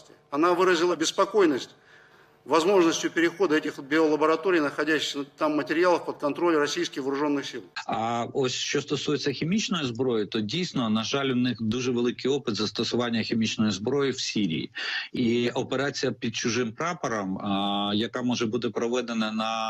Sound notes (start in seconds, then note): 9.5 in Ukrainian